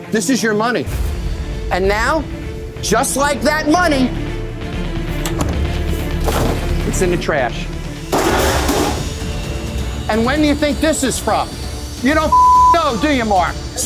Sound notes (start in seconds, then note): 1.0 dramatic music; 8.1 clatter